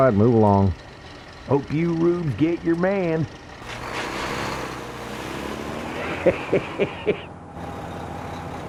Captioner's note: chuckles